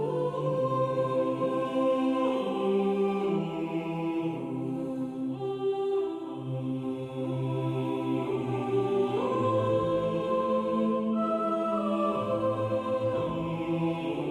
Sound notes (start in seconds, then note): none